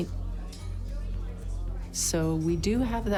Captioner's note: people chatting